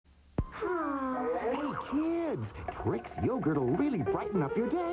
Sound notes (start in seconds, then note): 0.5 both Sigh